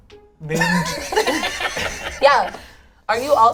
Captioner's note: all laugh